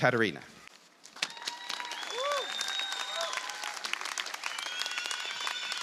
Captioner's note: applause